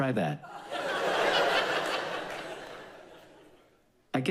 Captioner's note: audience laughs